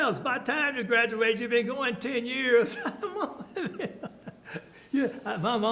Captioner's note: laughs